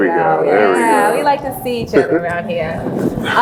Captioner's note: laughs